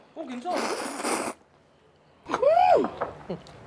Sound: slurping

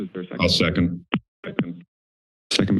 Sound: speaker feedback

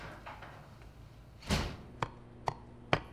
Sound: door closing; knife chopping

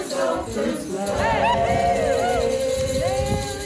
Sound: cheering, bells jingling

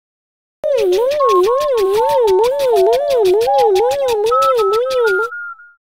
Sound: beeps and shaking noises

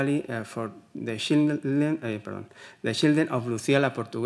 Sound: speaking Spanish

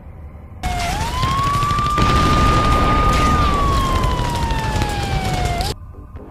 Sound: apocalypse sounds

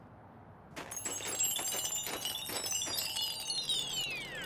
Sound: transitional chimes

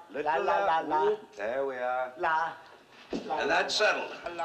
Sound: none

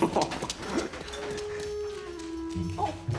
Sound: Sam chuckles

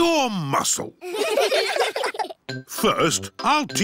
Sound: all giggling

